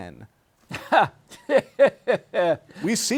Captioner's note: laughs